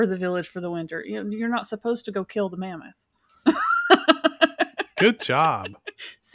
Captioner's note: laughs